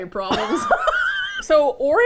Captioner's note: both laugh